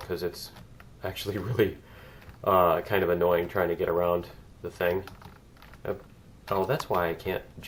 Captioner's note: laughs